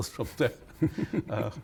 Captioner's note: laughter